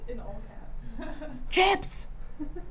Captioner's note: laughs